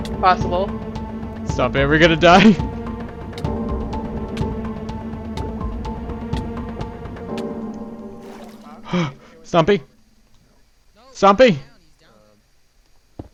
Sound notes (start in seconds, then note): 8.1 stompy